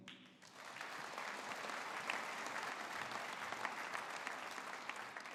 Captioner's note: audience applauding